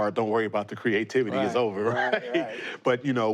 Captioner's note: chuckles